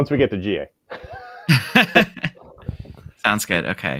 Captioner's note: laughing